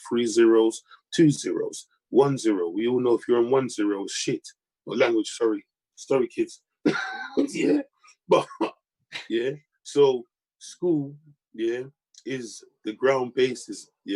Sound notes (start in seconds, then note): 6.8 laughing